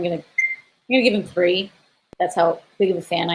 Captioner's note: beep; beeping